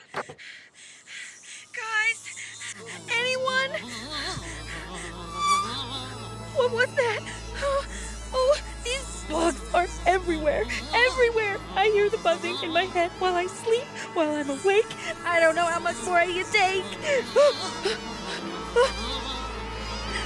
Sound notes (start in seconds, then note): 0.0 click; 1.7 menacing buzzing; 4.6 Isabelle pants; 16.6 she gasps, mosquitoes buzz